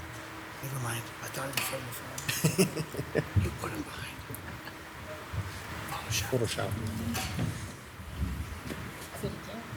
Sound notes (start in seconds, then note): 2.2 chuckles